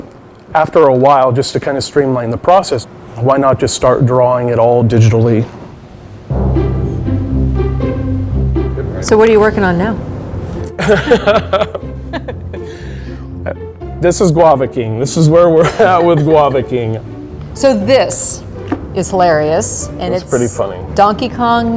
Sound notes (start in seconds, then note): 10.8 laughs; 15.6 chuckles